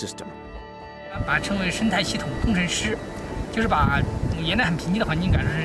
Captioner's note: speaking Chinese